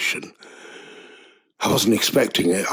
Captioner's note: inhale